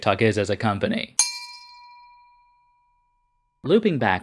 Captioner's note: bell sound